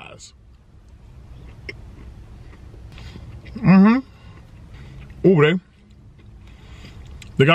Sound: crunching

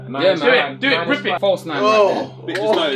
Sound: all chattering

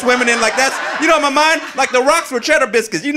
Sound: audience laughing

